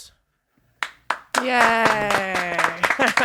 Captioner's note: applause